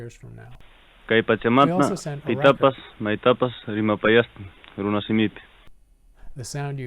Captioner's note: Man speaking in Quechua